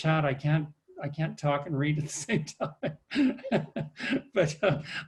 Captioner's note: laughs